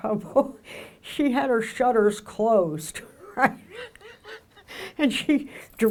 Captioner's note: laughs